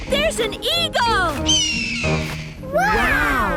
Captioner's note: eagle shriek; eagle shriek